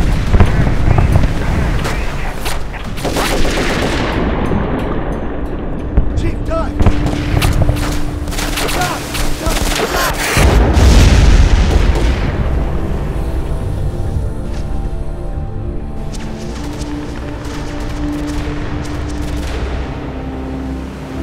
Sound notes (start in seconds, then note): 10.1 explosion booming; 16.7 guns firing; 17.5 dramatic orchestral music